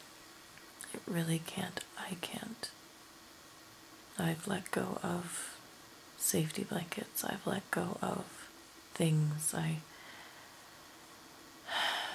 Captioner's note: sighs